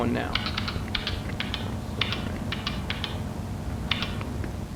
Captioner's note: typing